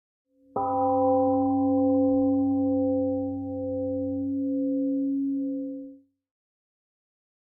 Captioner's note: temple gong rings and fades